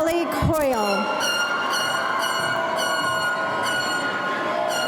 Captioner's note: air horn honking